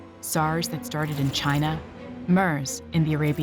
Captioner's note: none